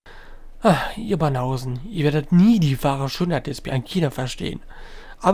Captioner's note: sighing